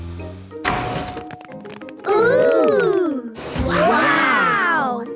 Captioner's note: door dings open